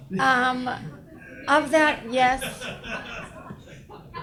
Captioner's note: audience laughs